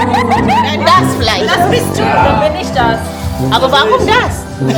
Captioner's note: speaking German